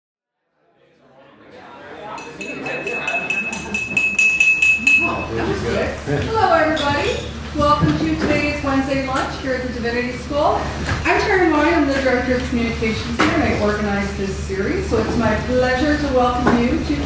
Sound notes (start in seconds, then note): 2.2 tapping on glass; 5.8 laughs